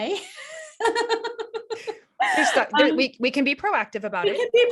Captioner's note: laughs